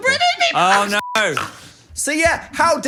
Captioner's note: beep